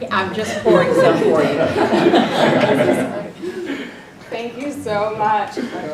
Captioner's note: laugh